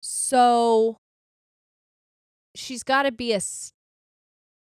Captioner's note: none